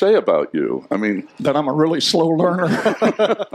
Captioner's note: laughter